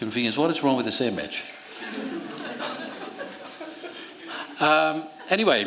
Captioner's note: laughter